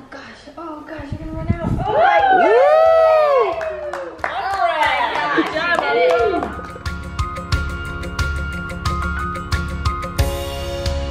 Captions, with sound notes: - Oh gosh, oh gosh, oh gosh you're gonna run out. (cheering and applause) - Oh my gosh. - All right! Good job Uncle! (upbeat music)